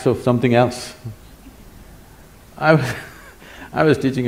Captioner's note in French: Rires